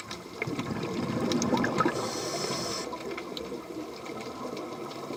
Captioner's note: sound of scuba diver breathing